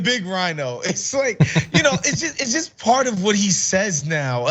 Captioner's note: laugh